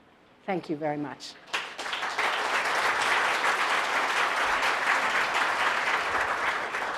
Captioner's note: applause